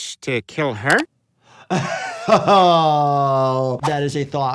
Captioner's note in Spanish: riendo